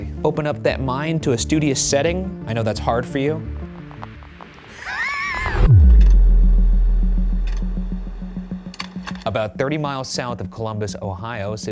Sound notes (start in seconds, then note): 4.7 laughing